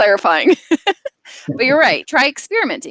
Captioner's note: laughs